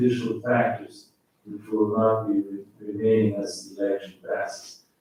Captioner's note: faintly speaking